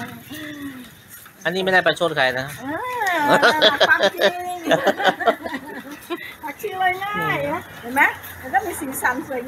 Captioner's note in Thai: เสียงหัวเราะ